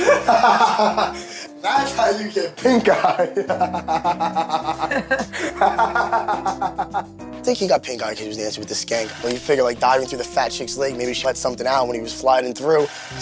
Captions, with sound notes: (laughing) - That's how you get pink eye. (continues laughing) I think he got pink eye because he was the dancing with this skank when you figure like diving through the fat chick's leg maybe she let something out when he was flying through